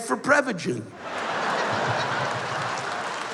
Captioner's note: laughter